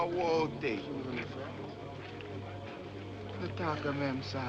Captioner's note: men Murmuring